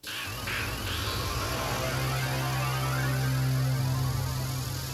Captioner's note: mysterious music; snakes hissing